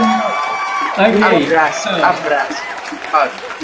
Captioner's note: in spanish